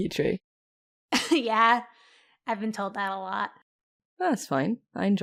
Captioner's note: chuckles